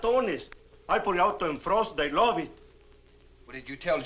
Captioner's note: speaks Spanish